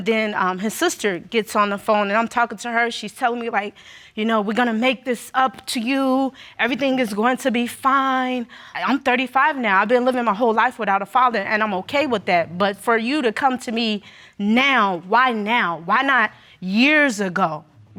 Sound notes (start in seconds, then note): none